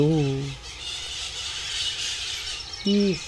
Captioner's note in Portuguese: Canto das araras